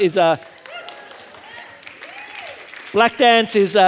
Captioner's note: audience applauding and cheering